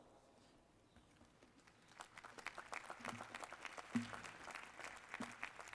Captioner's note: applause